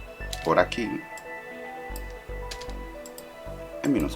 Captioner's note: typing